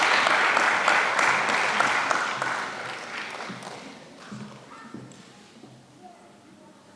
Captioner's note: applause